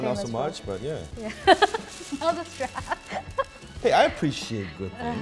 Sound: laughing

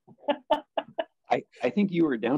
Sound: laughs

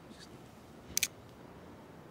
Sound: camera clicks

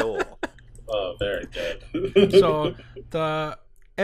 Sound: laughter

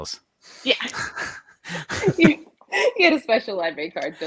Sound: both laughing

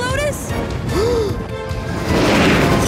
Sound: gasp

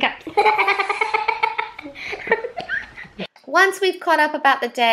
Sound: laughing

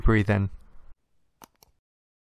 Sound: mouse click

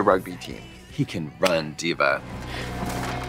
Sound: snaps; books thudding

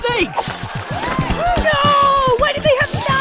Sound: Lucy, screaming

